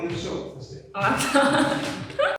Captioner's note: laughing